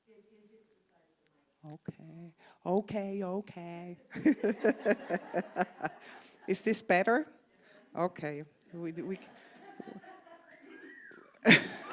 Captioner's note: laughter from the congregation